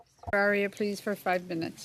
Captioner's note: speaking French